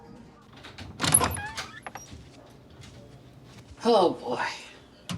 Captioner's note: door creaking